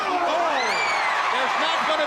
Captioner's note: crowd cheering